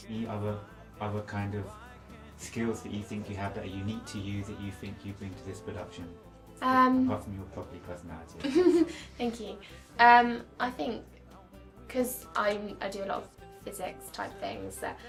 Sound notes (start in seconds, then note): 8.4 laughing